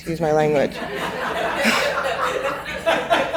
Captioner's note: laughing